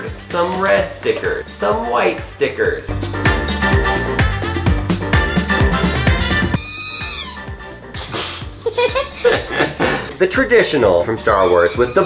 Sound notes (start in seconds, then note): 3.5 lively music; 7.9 laughing